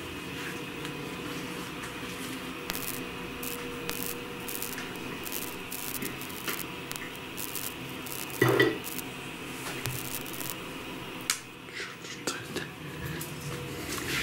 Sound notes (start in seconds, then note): 2.7 interference